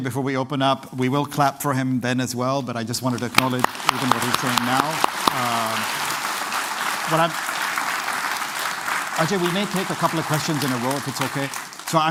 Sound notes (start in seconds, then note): 5.2 applause